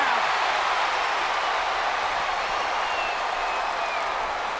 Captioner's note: crowd cheers